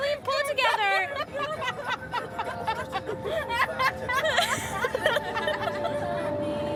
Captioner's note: girls laughing; placid music